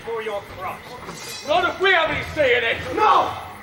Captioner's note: swords unsheathe